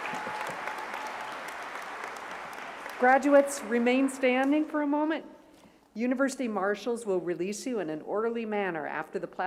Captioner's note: cheers and applause